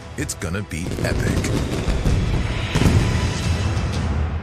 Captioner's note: fireworks popping